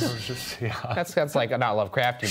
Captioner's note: chuckling